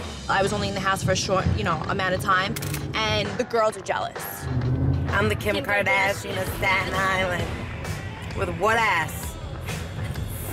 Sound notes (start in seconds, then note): 5.4 mocking